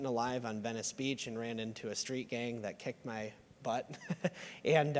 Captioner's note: laughs